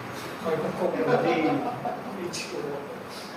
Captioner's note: laughters